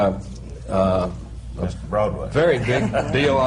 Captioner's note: laughter